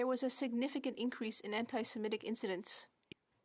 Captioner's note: speaking French